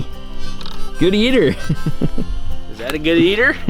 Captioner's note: laughing